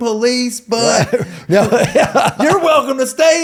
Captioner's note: laughing